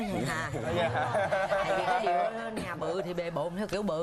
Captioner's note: laughing